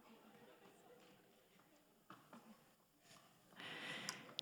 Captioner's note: people chattering